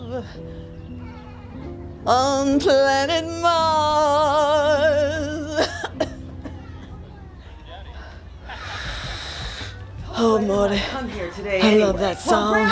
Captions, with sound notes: on planet Mars. (coughs) (uses inhaler) Oh, Morty, I love that song.